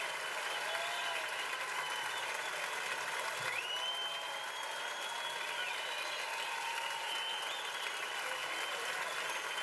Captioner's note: cheers and applause